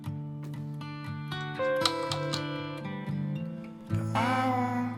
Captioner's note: keyboard clacking